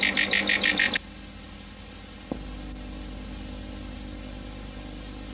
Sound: VHS static

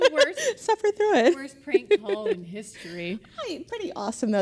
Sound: laughter

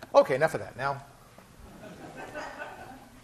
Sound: class laughing

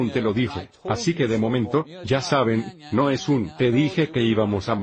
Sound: chanting

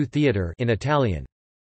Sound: in Italian

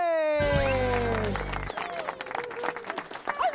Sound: applause

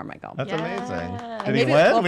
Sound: claps

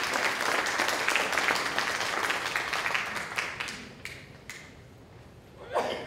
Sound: applause

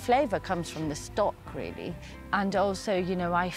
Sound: none

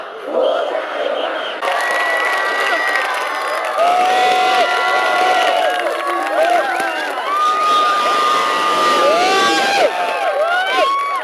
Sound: cheer sounds

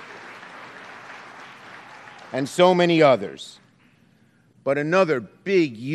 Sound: applause

